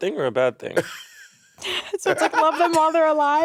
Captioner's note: Monét and Courtney laughing